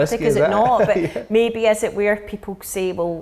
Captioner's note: laughing